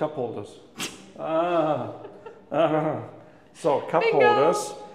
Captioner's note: laughs